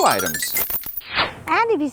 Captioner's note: whoosh!